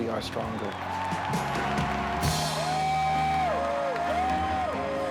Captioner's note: cheers and applause